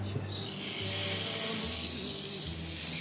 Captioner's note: sizzles